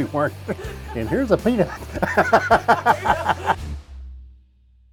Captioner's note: laughing